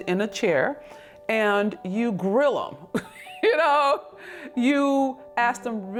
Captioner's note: chuckles